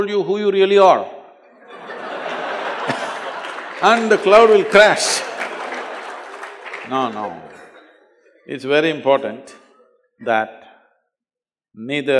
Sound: laugh

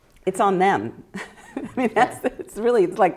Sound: chuckling

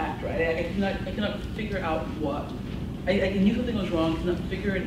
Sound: none

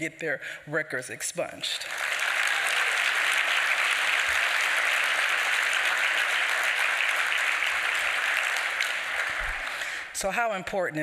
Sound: applause

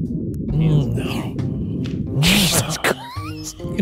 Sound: sniffing and grunting

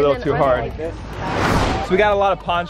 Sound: whoosh

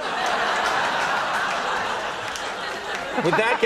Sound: laughter

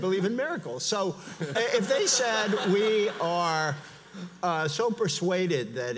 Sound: audience laughs

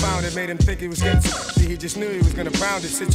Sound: rapid beeps

